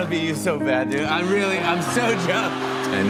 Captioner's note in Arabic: ضحك